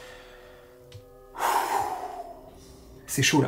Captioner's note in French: souffle